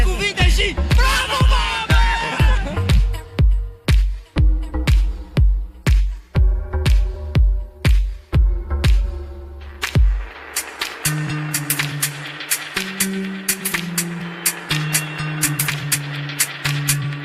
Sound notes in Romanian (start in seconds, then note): 9.9 Aplauze